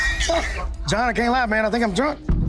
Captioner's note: laughing